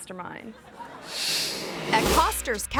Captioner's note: audience laughing; screen whooshes